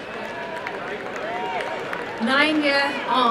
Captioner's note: applause and cheering